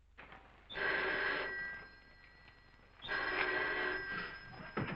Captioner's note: phone ringing